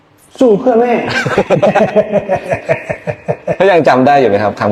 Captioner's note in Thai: เสียงหัวเราะ